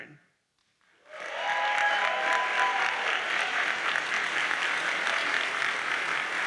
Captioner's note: audience cheers and applauds